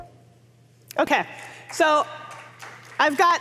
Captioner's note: applause